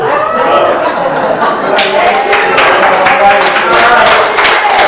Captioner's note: audience laughs and claps